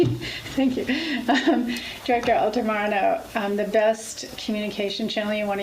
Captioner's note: laughs